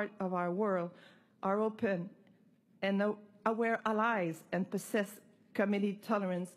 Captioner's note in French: voix de l'interprète